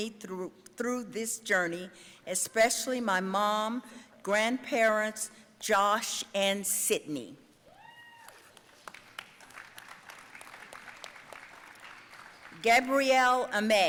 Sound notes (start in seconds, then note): 7.8 audience cheering and applauding